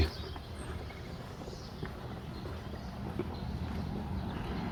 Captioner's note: birds chirping